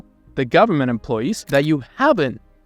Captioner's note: camera clicking